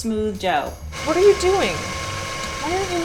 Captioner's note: mixer whirring